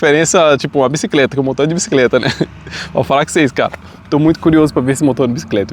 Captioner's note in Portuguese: risadas